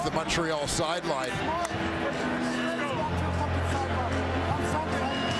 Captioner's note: crowd Noise